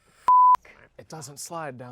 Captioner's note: beep